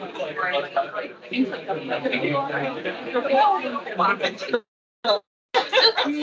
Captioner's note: attendees laughing; attendees chattering; attendees laughing